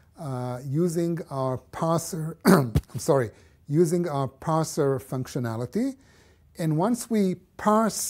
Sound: cough

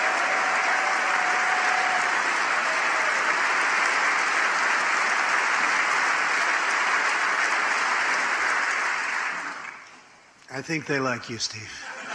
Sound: applause

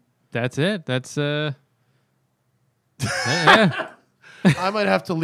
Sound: laughter

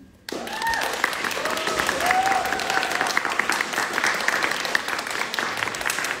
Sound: audience clapping; audience cheering

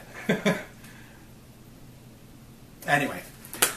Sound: laughs

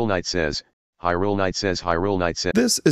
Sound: tts robot

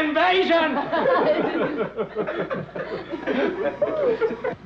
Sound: group laughing

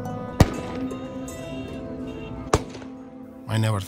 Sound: gun shots

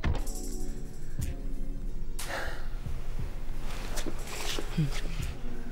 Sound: sighing softly

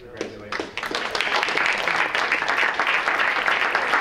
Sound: everyone clapping

